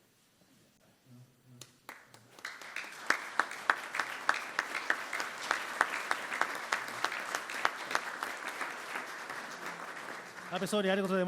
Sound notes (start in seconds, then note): 1.8 applause